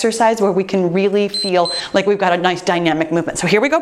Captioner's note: timer beeps